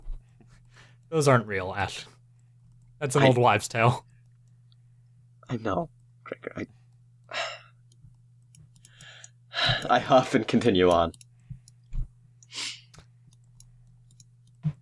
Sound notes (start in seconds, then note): 7.2 sigh